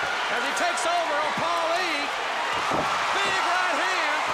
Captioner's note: crowd cheering